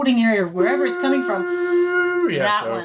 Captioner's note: machine humming sound effect